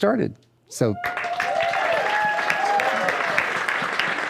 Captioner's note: applause